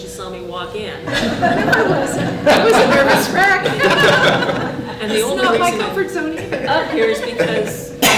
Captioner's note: laughter